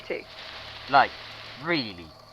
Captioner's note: rustling of leaves